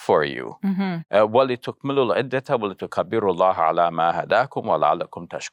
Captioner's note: speaking in foreign language